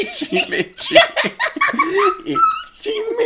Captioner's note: laughing